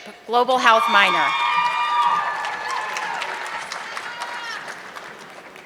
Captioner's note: audience clapping